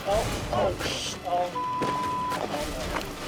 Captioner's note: beep